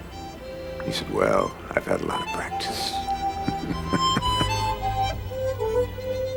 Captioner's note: laughing